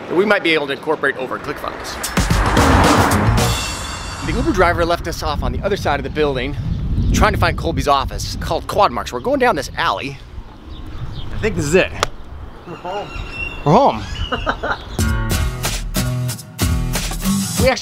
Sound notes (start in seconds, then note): 13.8 laughs; 15.0 guitar music